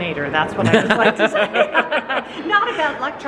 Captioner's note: both laughing